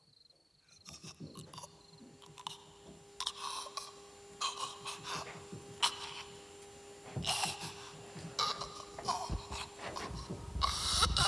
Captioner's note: faint choking sounds